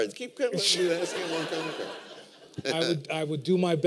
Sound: laughter

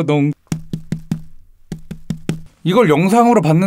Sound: tap tap tap tap

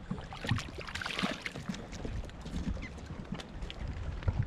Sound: fish thrashing

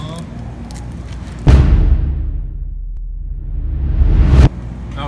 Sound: dramatic thud

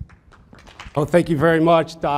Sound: audience applauds

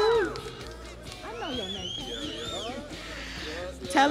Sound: crowd cheering

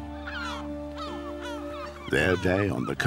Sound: seabirds call

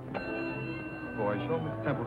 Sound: bell ringing

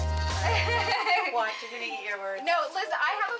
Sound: chatter

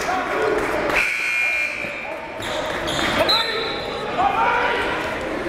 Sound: players and coaches yell

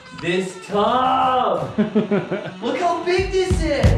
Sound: laughing

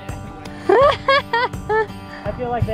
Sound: laughs

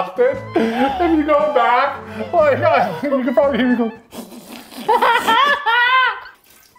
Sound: laughs

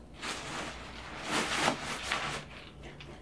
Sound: rustling

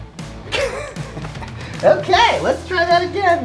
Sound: laughing

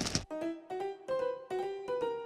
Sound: thud

